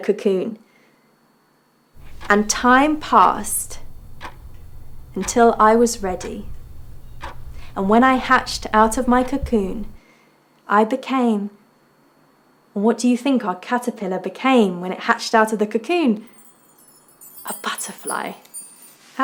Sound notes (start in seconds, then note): 16.2 wind chimes jangling